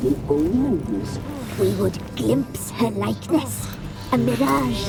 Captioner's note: groan